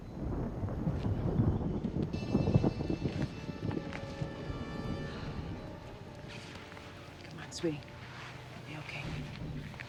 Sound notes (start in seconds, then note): 1.8 wind noise